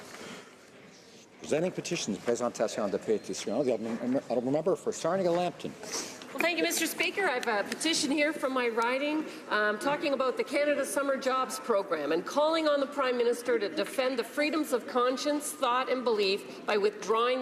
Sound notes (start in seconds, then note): 5.4 speaking French